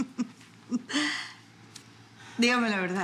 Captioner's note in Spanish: Risas